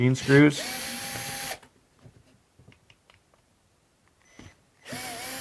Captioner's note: screwdriver whirring